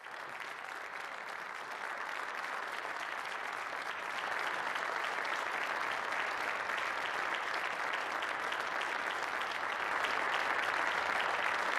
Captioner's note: applause